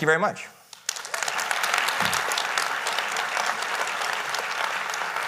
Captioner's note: audience applauding